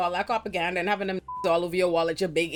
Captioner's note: beep